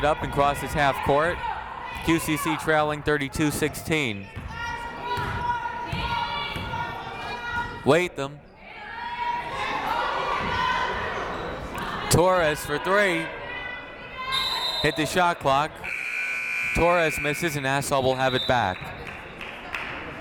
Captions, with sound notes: Rodriguez brings it up and crosses half court. QCC trailing 32-16. Latham. Torres for three. Hit the Shot clock. (siren buzzing) Torres misses and Nassau will have it back.